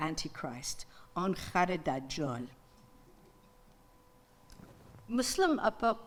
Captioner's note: speaks in foreign language